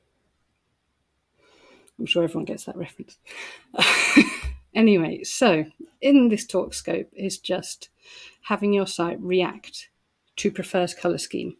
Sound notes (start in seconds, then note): 3.7 laughter